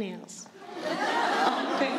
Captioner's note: laughter